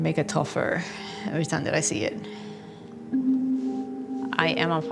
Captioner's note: sighs